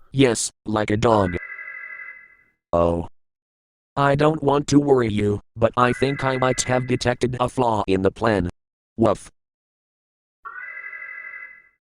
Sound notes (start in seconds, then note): 10.5 alarm